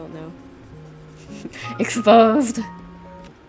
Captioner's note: snickers